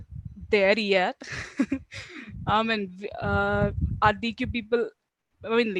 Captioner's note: laughing